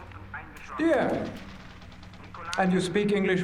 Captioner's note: speaking german